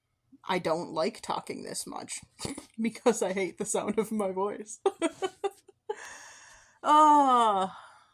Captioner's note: laugh, then sigh